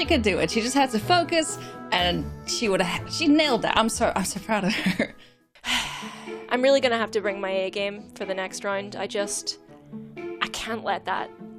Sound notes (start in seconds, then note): 4.7 chuckles; 5.3 exhales sharply